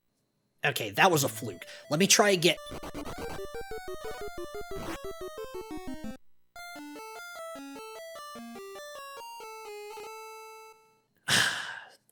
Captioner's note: sighes